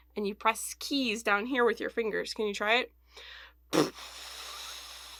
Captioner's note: blowing noise